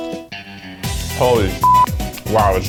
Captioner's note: beep